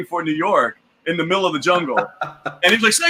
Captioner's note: laughs